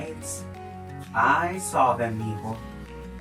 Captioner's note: speaking in Spanish